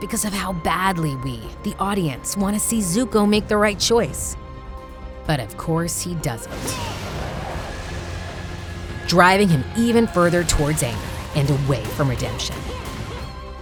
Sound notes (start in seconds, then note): 6.5 grunting